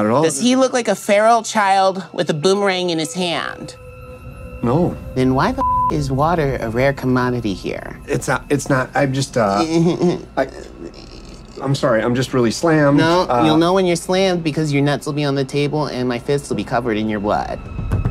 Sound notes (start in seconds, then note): 5.5 beep